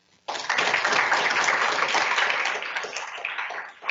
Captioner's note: audience applauding